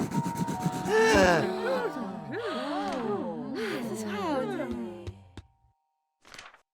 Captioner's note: officials and crowd gasp